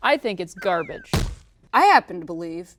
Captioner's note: garbage bag crashing